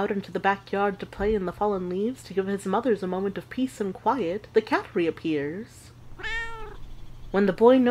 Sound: cat meows

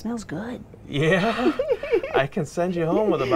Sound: people laughing

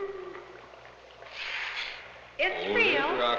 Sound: sniffing

